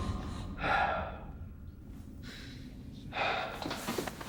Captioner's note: Adam sighing